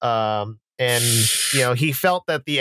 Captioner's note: breathes in sharply